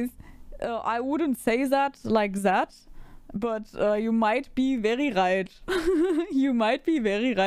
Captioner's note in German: lachen